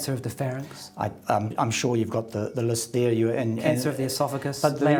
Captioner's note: stammers